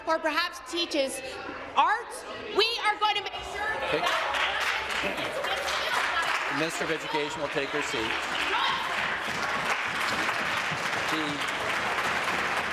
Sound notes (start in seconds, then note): 8.1 voice fading